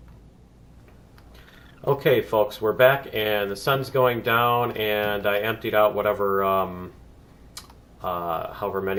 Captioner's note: plant monster chirps